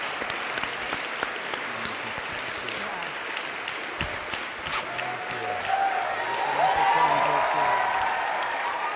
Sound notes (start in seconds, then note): 0.0 audience applauding and cheering